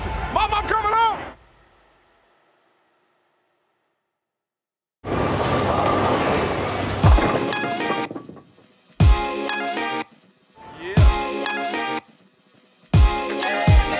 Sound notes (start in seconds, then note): 6.8 pins falling; 6.8 upbeat music starts